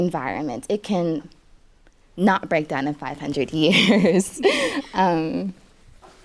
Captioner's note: laughs